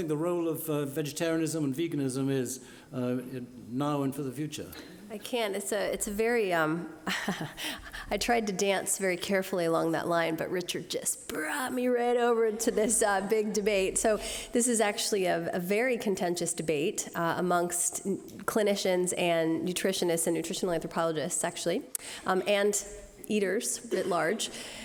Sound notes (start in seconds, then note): 7.1 laughs